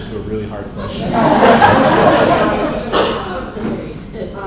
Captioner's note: laughter